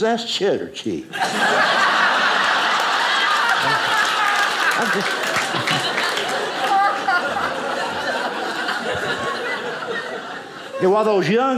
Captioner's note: audience applauding